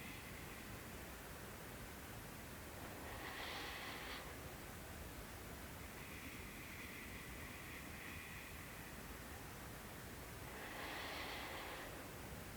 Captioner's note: inhales and exhales